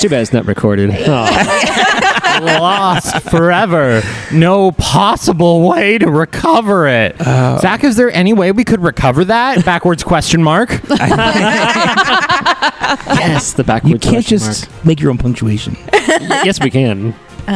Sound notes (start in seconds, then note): 3.1 laughter; 7.2 groans; 10.8 laughter; 15.9 laughs